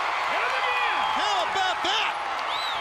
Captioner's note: crowd chatter